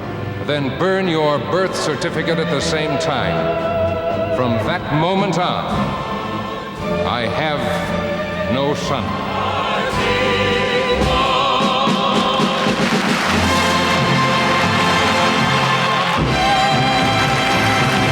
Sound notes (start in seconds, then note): 12.6 applause